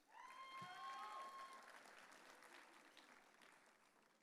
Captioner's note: audience cheering